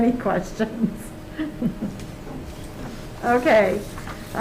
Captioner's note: laughs